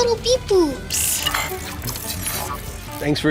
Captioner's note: robots whirring